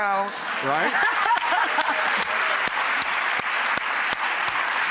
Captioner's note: applause